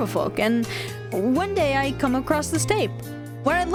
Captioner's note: gasp